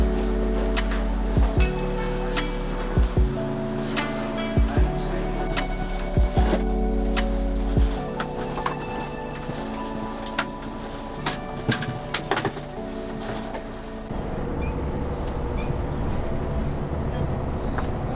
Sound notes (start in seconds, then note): 4.5 lively music continues; 12.0 skis rattling; 14.0 engine roaring